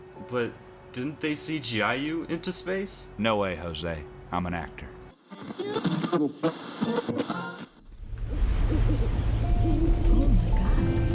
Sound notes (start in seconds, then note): 5.2 radio static